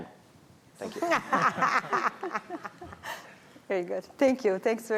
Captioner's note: laughter